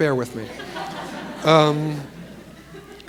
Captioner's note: laughter